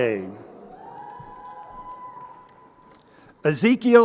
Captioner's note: crowd cheering